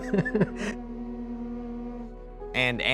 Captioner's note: instrument playing; man laughing